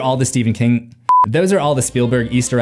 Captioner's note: beep